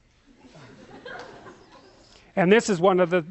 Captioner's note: laughter